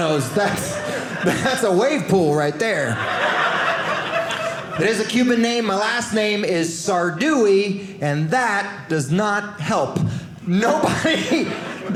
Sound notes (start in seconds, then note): 2.8 audience laughing